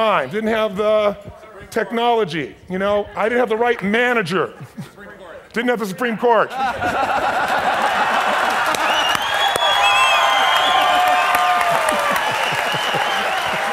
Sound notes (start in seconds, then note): 4.8 voiceover; 6.5 laughing loudly; 9.6 clapping and cheering